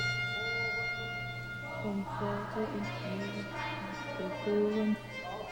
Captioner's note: speaks in german